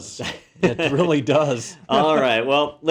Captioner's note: laugh